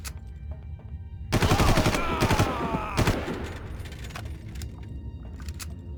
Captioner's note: gun firing